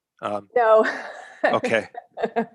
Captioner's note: laughing